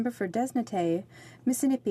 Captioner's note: speaking French